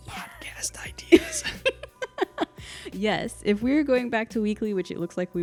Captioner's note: laughing